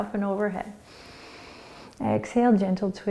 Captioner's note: inhaling